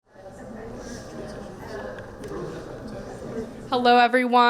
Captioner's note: people chattering